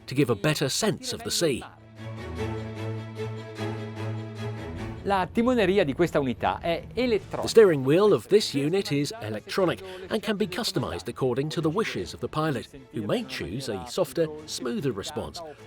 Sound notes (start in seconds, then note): 2.2 upbeat music; 5.3 speaking in foreign language